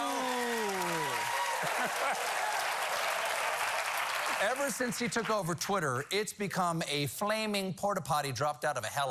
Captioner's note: applause